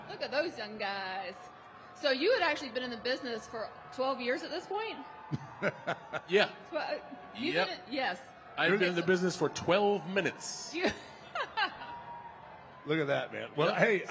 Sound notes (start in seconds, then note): 5.4 The Undertaker laughing; 10.8 laughing